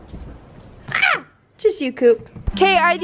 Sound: yells

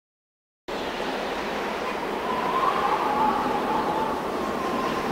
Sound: wind whistling

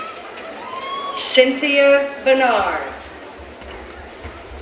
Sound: none

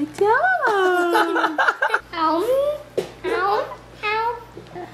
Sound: laughs

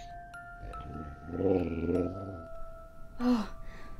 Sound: bear gowls

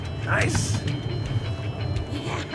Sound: laughing; whooping

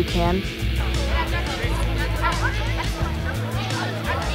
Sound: kids chatting

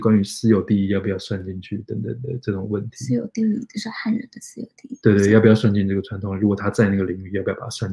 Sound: speaks mandarin

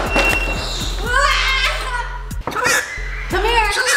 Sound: loud thumping; bird squawking; yelling

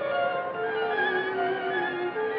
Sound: whistle

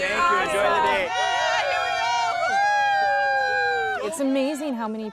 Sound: crowd; crowd cheering

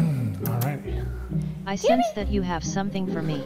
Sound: kissing sounds

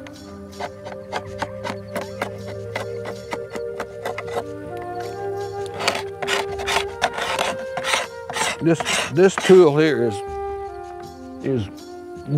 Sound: scraping

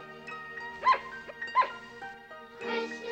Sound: barks

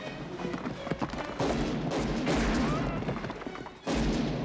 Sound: gunshots

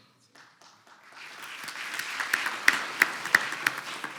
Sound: audience applauds

